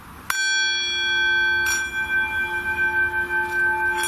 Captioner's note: bowl rings